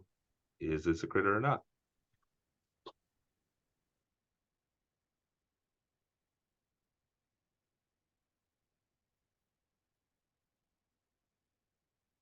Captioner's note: silence